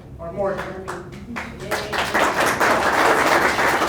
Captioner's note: audience applauds